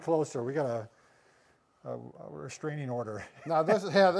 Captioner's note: chuckles